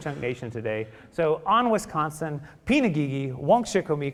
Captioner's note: speaking Ho-Chunk